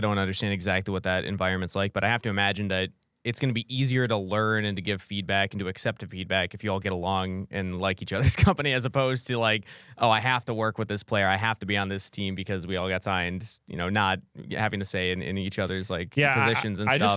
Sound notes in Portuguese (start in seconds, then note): 8.2 risos